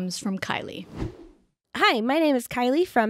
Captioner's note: air whooshing